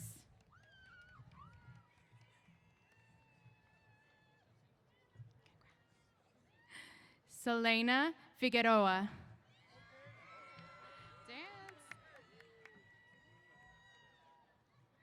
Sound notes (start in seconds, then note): 0.4 applause & Cheers; 12.6 cheers